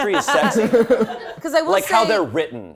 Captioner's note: all laughing